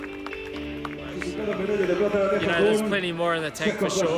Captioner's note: crowd cheering; announcer speaking